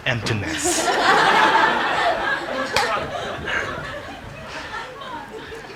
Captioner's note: congregation laughing